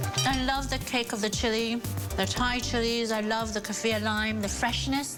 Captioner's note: mouth full